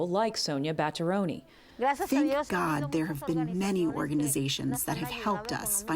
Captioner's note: through translator